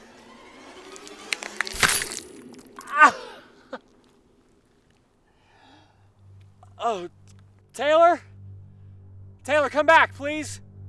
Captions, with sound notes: [blade tearing flesh] Ah! [chuckles] Oh... Taylor? Taylor, come back, please!